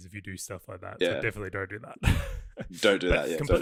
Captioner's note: laughs